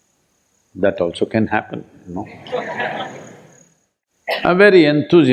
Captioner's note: laughter